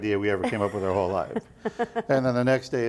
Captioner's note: laughing